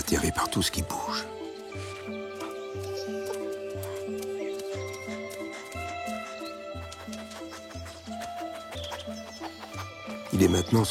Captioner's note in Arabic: يضحك